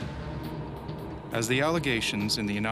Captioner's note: voiceover